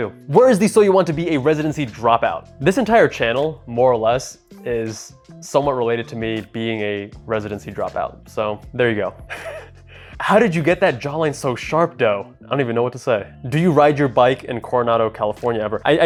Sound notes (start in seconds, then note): 9.3 laughing